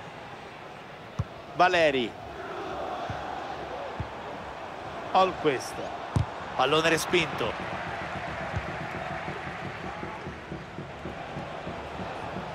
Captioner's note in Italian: Applauso